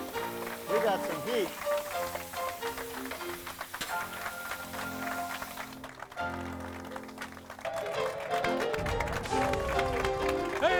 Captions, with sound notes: We got some heat. (upbeat piano music) (audience applauding) - Hey, welcome back